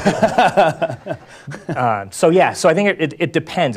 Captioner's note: laugh